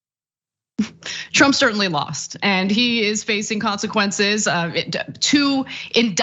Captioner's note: laugh